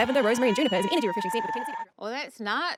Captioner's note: screaming